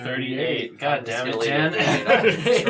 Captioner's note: all laugh